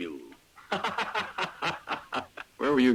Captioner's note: Lucky laughing